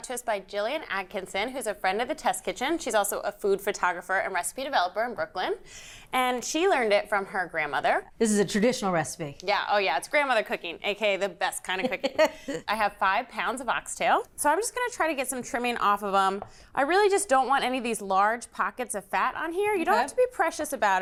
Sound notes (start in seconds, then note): 11.8 laughs